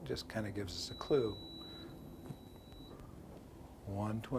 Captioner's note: beeping